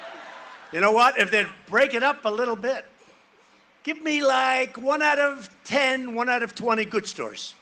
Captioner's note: cheering and applause